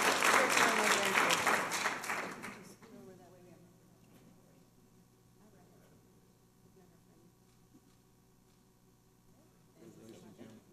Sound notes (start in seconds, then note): 0.3 people talking